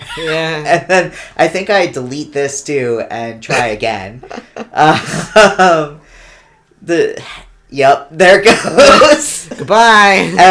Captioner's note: pained laugh